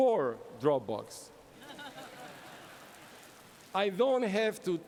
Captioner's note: laughter